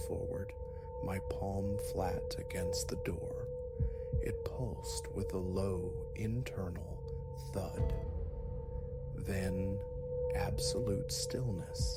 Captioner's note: thud